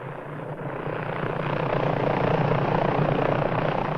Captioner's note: helicopter blades whirring